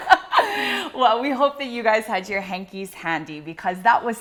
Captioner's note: laughing